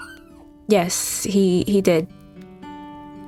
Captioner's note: whimpering dog noises